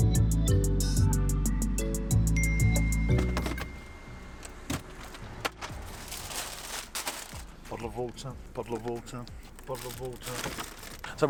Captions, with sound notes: (dinging) (thudding) (crinkling) Bottle of water, bottle of water, bottle of water. (crinkling)